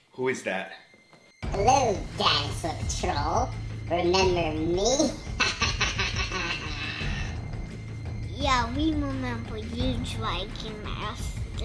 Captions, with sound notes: Who is that? - Hello Dinosaur Patrol, remember me. (laughs) - Yeah, we remember you dragon master.